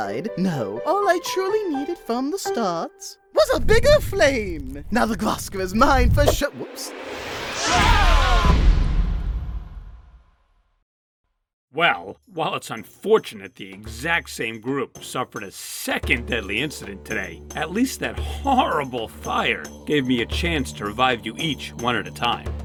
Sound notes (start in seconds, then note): 7.6 all scream